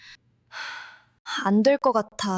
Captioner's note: sigh